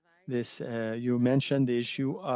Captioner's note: speaking French